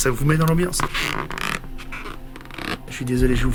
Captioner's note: grinding